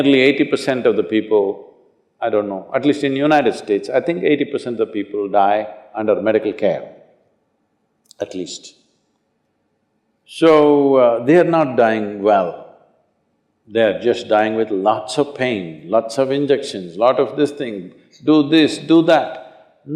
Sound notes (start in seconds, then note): none